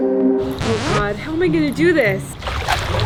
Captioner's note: record scratch